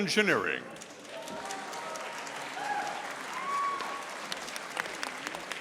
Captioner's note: audience applauding